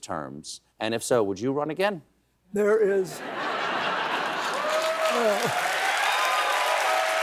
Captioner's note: cheers and applause; laughter